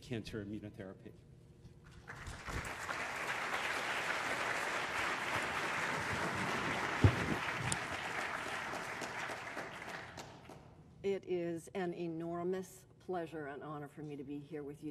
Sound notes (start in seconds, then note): 1.9 applause